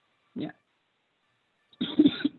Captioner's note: coughs